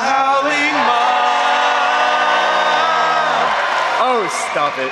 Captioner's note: audience cheers